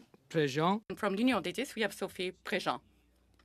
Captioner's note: speaking French